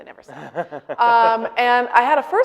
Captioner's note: laughing